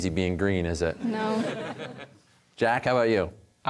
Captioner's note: audience laughter